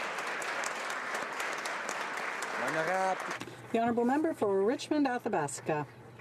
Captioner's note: some Applause